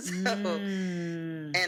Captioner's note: laughs